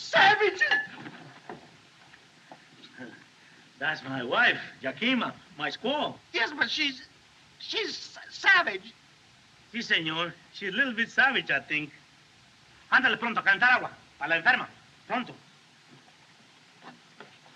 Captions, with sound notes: Savages! [Chuckles] That's my wife, Yakima. My squaw. Yes, but she's - she's savage! Si, señor. She a little bit savage, I think. Ándale pronto. A calentar agua. A la enferma, pronto.